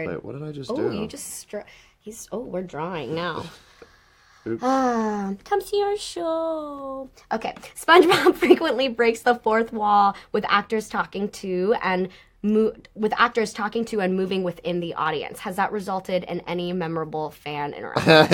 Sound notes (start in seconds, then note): 4.6 she sighs; 5.4 singsong